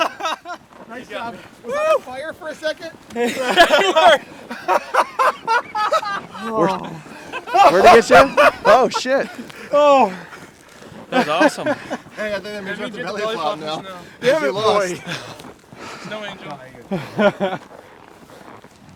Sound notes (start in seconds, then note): 3.1 group laughing